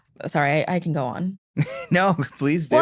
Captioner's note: laughs